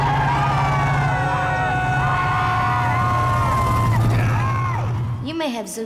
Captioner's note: teenagers shouting and cheering